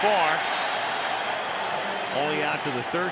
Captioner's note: cheering